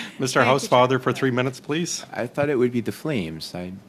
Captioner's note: laughter